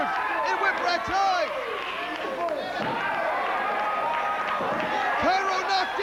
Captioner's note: crowd cheering